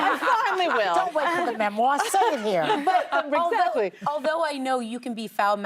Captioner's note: laughter